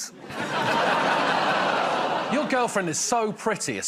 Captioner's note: laughter